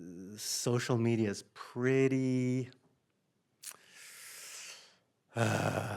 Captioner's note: sighs